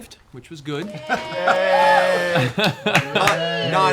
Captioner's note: cheering